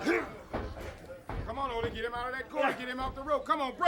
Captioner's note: crowd chatter